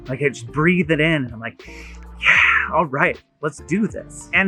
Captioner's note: inhaling heavily